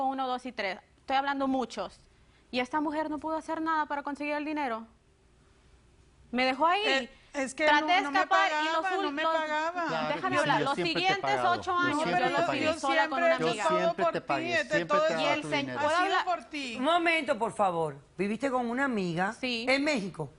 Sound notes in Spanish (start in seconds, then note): 11.1 Hablan al unísono